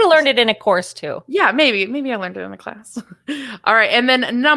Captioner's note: laughs